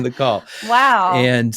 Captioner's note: laugh